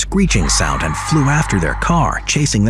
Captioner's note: creature screeching